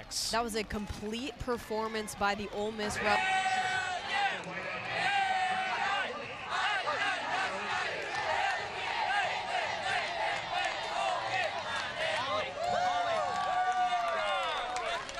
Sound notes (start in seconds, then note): 3.2 team chanting and cheering with crowd; 12.7 cheering